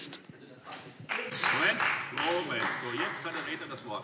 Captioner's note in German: Beifall